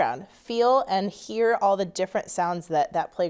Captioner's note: none